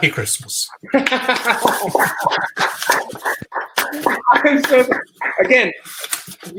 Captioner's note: laugh; applause